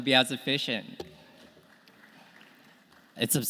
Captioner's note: audience clapping